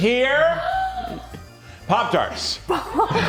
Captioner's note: crew gasps